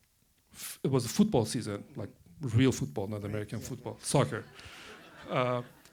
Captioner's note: laughter